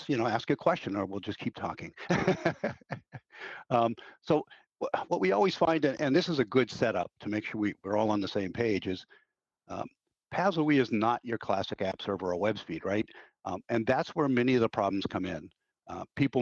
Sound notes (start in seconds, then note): 1.9 chuckling